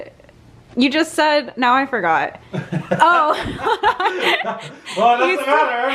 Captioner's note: laughs